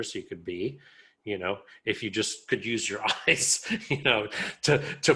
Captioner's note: laughs